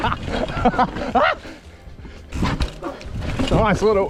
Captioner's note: laughs; screams